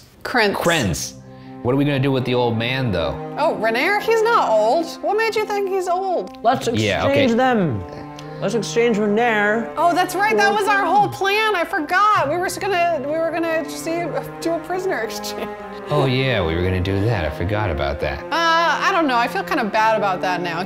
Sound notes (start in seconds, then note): 15.3 laughs